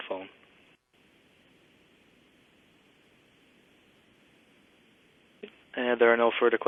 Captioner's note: pause